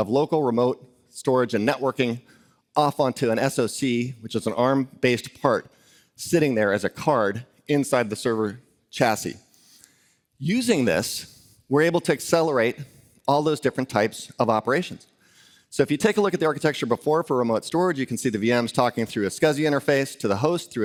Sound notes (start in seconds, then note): none